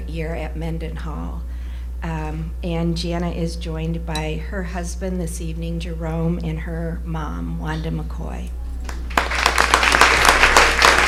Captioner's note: applause